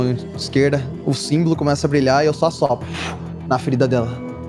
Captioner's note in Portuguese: sopro